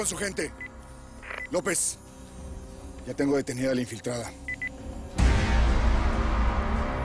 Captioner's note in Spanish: Bip; Bip